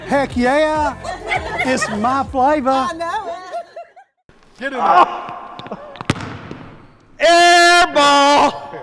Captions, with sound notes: - Heck, yeah. It's my flavor. - I know. - Get it over. (ball thuds) - Air ball!